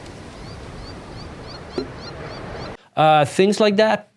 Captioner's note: seagulls chirping